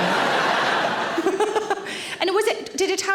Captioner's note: audience laughing